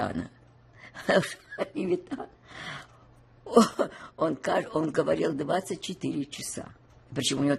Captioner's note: laughing